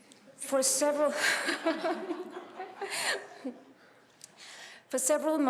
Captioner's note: laughter